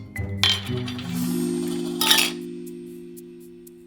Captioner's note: lid spinning